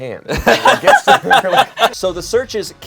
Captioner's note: everyone laughs